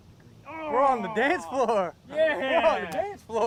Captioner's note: groaning